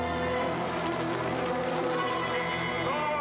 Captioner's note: fire crackling